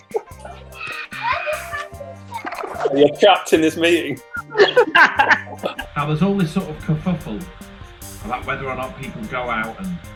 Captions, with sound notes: You're trapped in this meeting. [laughing] There's all sort of kerfuffle about whether or not people go out,